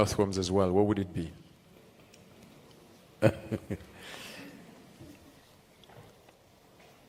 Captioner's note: Sadhguru laughs